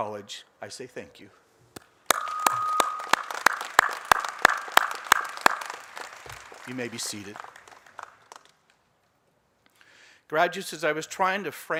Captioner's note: applause